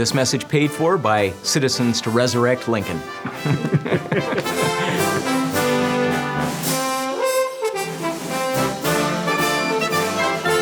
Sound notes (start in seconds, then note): 3.2 both laugh; 5.3 patriotic music